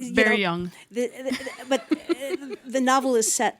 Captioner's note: attendees laugh